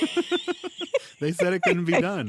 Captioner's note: laughter